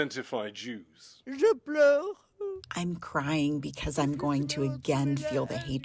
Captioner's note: through translator